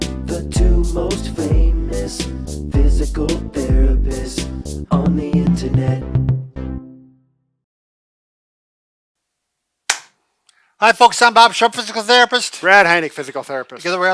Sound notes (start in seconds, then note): 9.9 claps hands